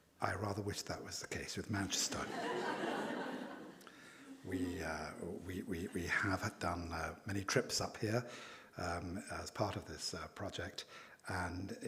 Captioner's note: laughing